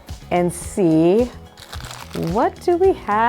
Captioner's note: strap clicks